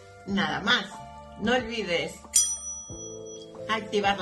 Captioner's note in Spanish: sonido: riiingggg